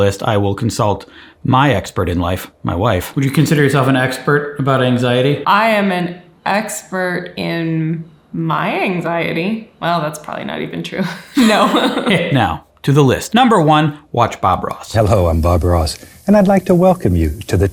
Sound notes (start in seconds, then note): 11.0 laughing